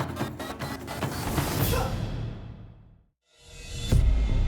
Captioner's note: grunt